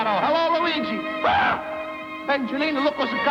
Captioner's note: yells